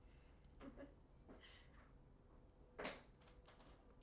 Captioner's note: laughing